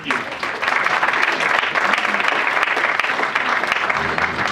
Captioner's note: audience applauds